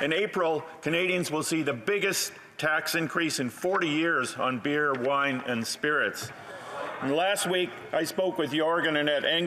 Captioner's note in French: voix de l'interprète